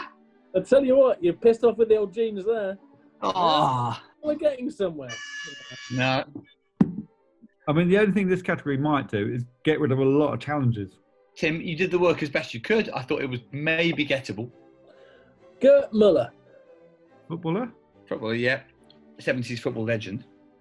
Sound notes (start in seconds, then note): 5.1 klaxon